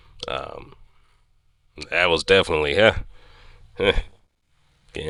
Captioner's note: gutteral huffs